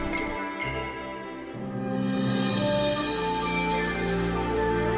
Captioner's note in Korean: 종소리